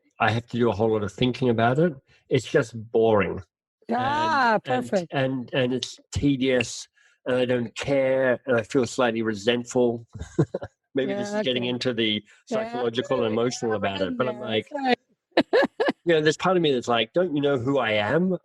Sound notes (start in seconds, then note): 10.4 laughs; 15.2 laughing